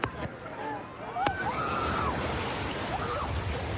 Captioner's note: excited screaming